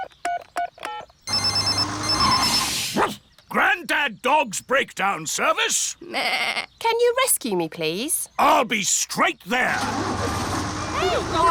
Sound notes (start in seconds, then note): 1.2 phone ringing; 1.2 beeping; 2.9 barks; 6.0 bleats